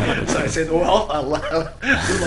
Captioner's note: laughing